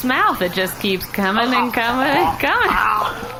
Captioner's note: Pleck gagging